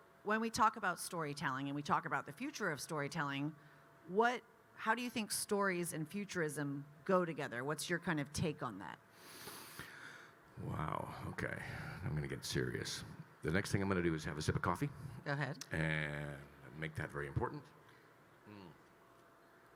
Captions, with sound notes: - So, when we talk about storytelling and we talk about the future of storytelling, how do you think stories and futurism go together? What's your take on that? (Kyle deeply inhales) - Wow, okay, I'm gonna get serious. The next thing I'm gonna do is have a sip of coffee. - Go ahead. - And make that very important. Mm.